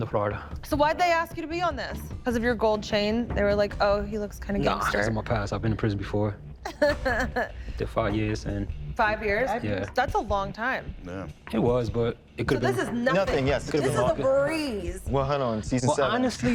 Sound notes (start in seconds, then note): 6.6 laughing